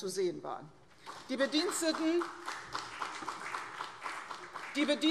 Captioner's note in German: Beifall CDU und BÜNDNIS 90/DIE GRÜNEN